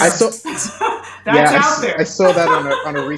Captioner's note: laughs